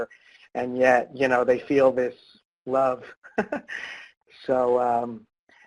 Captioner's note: laughs